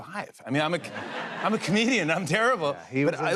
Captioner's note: laughter